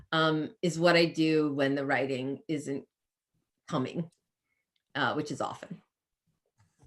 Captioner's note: none